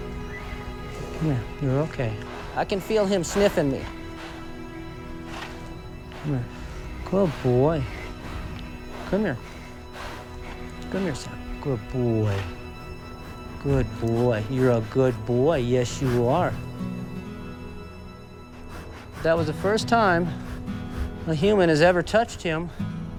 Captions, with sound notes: Yeah. You're okay. I can feel him sniffing me. Come here. Good boy. (Samson huffing and sniffing) Come here. Come here, Sam. Good boy. Good boy. You're a good boy. Yes, you are. That was the first time... A human has ever touched him.